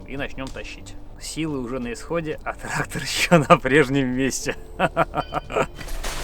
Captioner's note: laughs